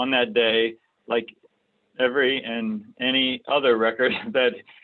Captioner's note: laughs